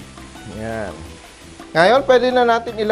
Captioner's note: sizzle